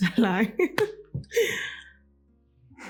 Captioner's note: laughs